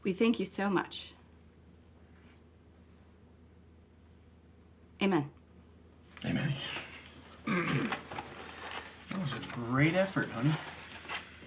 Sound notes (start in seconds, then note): 7.4 clears throat